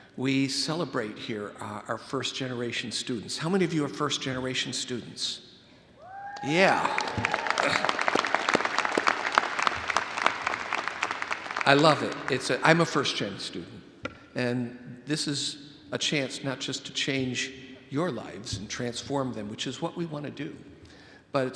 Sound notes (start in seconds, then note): 6.0 audience member hooting; 7.8 all applauding